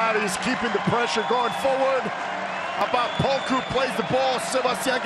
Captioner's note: cheering